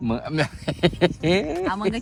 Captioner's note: laughter